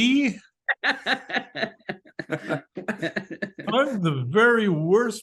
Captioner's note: group laughs